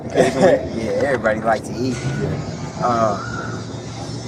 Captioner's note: chuckles